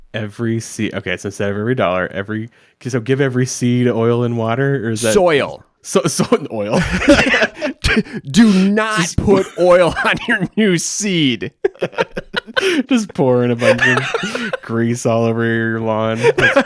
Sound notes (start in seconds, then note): 6.7 both laughing